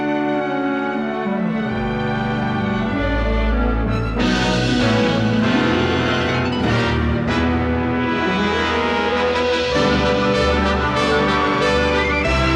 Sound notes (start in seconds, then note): none